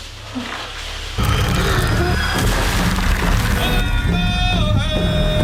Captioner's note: wood cracking; voices chant; drums beating